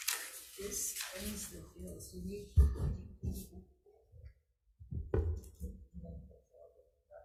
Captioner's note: faintly speaks